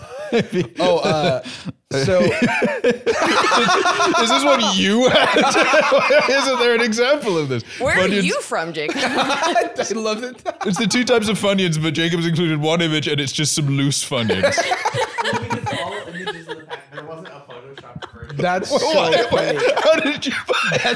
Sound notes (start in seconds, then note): 2.5 both laughing; 8.8 laughing; 19.3 laughing